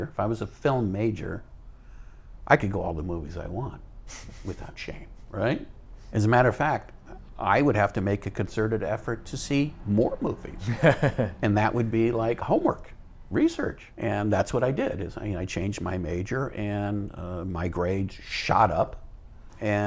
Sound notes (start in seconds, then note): 10.6 laughs